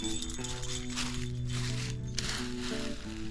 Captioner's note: bells jingle